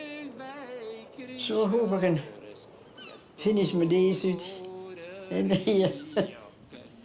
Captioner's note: laughs